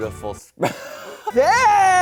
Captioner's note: laughs